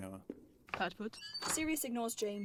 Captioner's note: door opens; door slams